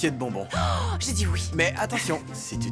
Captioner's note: gasping